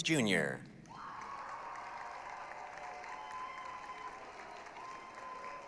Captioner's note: applause, cheering